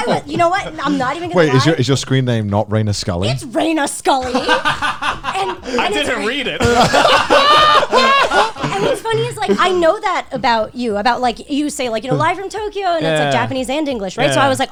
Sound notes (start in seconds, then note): 4.2 laughing loudly; 6.6 all laughing